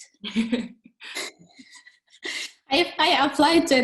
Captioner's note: chuckling